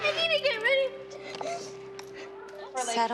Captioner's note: sobs